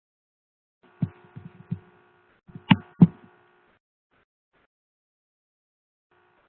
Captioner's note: no sound